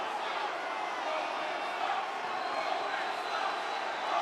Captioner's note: audience chanting